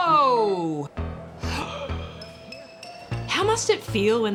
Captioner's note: gasps